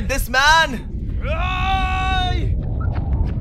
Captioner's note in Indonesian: Teriakan